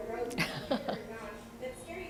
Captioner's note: laughter